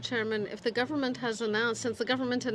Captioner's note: speaking French